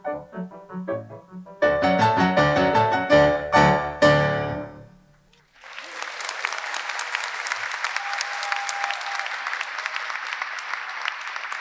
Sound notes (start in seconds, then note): 5.4 audience applauding; 5.4 audience cheering